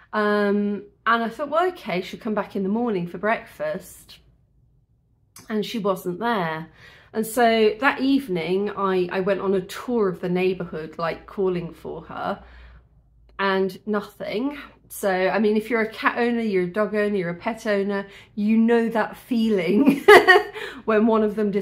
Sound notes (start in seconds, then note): 20.2 laughing